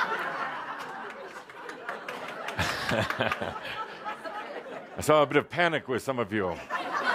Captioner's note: much laughter; more laughter